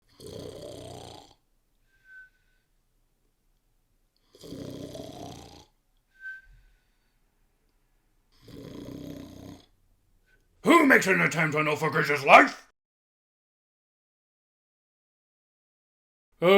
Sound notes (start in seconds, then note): 0.0 A beholder snores in the foreground